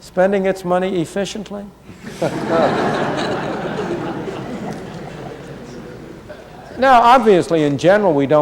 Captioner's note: laughter